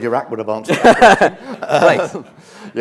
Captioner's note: laughter